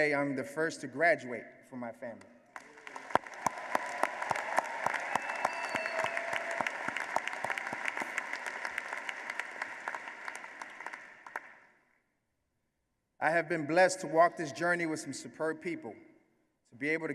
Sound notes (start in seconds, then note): 2.5 applause